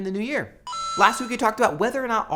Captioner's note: mario coin sound